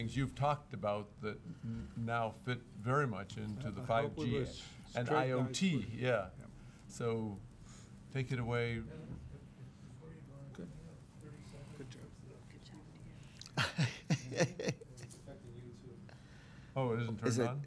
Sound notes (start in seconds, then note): 13.4 chuckling